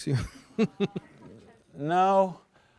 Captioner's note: laughs